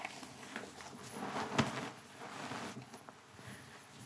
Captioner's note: feet shuffling; bedspread ruffling